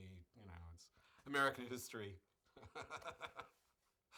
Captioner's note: laughs